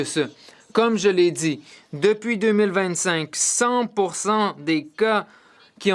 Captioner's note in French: voix de l'interprète